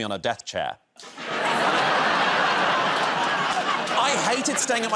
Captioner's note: laughter